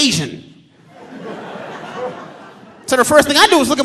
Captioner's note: audience laughing